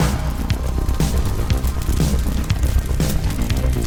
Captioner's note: fire crackling